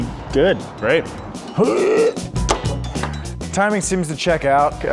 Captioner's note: grunting